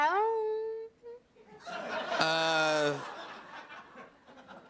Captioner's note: laughter